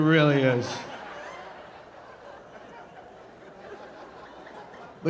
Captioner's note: audience laughing